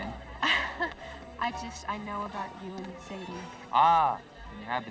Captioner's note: laugh